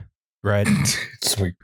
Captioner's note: snorts; laughs